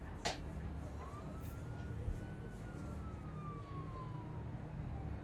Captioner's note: sirens blaring